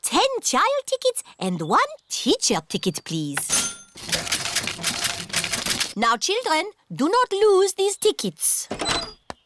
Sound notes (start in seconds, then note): 3.5 cash register dings